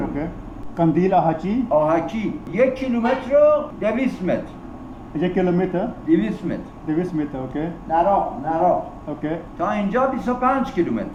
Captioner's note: speaking Persian